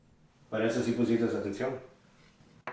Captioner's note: Spanish